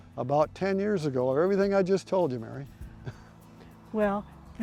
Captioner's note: chuckles